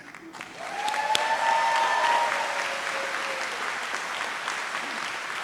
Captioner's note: audience cheers and applauds